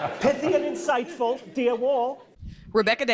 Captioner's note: audience laughing